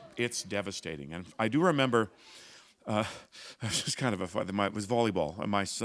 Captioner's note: chuckle